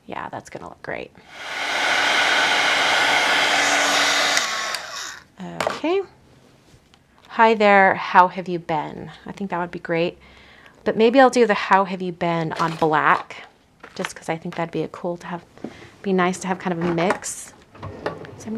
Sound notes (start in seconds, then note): 1.3 device whirring